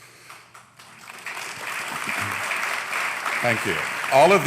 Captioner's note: applause